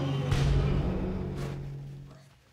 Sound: audience gasping

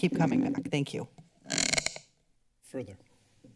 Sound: microphone squeaks

